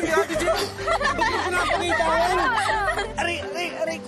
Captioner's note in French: laughter